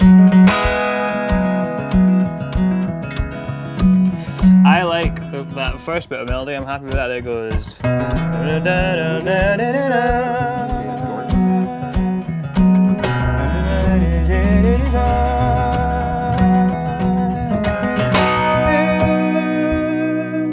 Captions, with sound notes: (fast guitar music) - I like that first bit of melody. I'm happy with that, it goes (hums melody)